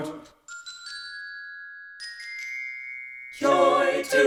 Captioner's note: chimes tinkling